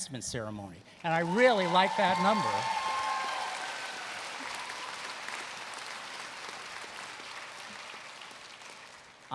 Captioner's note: applause